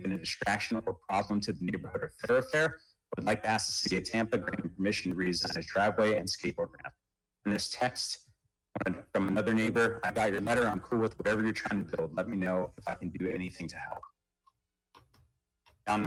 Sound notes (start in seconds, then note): 13.1 ~audio distortion~